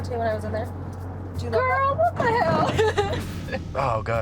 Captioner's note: laughing